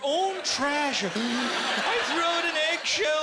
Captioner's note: inhaling deeply